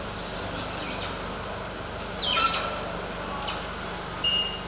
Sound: squeaking, beeping

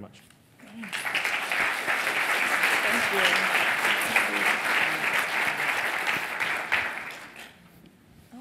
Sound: applause

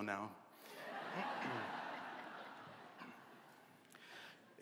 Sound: laughter

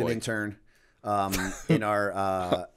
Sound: chuckle

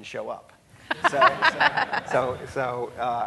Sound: laughing

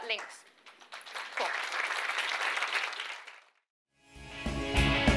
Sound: audience applauds; lighthearted rock music

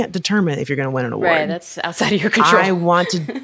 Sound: chuckles

